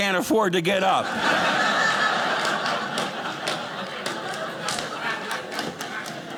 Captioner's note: audience laughing